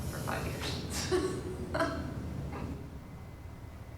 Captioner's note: laughing